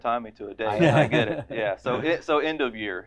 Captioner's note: laughter